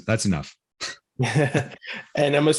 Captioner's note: chuckling